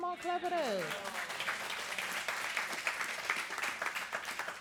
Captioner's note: audience clapping